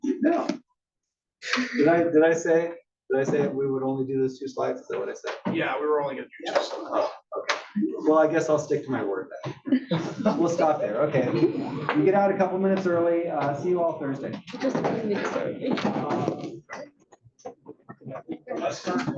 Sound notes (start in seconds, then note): 11.0 laugh